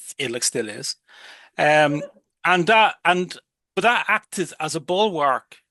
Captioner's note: audience laughs